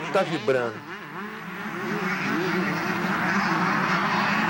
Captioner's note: engines